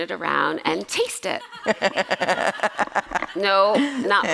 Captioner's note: laughter